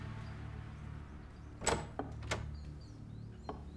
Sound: sound of door opening

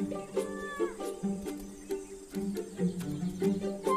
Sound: lemur squeaking

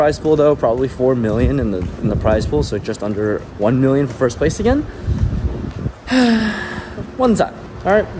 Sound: sigh

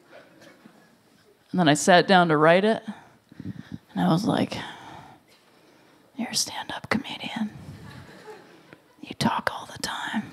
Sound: whispers

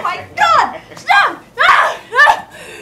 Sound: yells; gasps for breath

